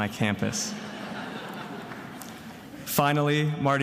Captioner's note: attendees laughing